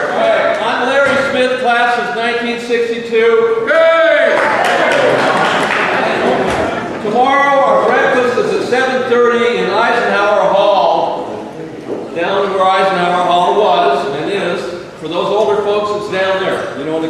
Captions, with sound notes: All right, I'm Larry Smith, class of 1962. - Larry! (crowd applauding) - Tomorrow our breakfast is at 7:30 in Eisenhower Hall, down where Eisenhower Hall was and is. For those older folks, it's down there,